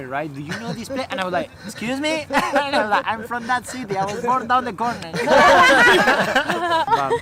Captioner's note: laughter